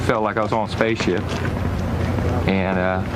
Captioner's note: none